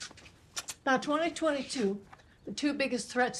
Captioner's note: lips smack